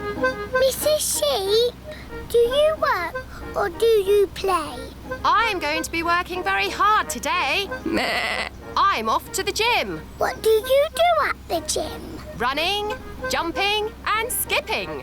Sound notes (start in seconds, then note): 7.9 bleats